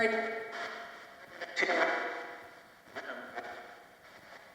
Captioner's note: ghostly voices warbling